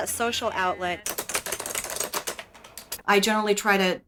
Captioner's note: clicking